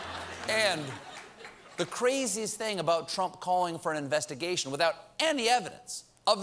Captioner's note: laughter